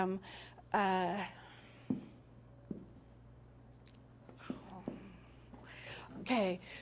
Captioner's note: big sigh